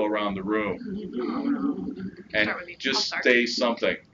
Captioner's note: audience chuckles and people show signs of nervousness